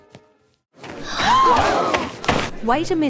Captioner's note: students Gasping